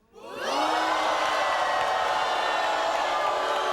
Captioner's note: audience booing